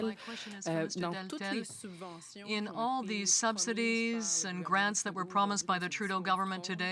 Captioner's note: speaking french